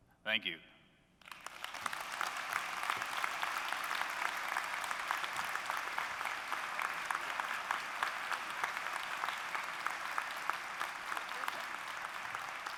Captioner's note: applause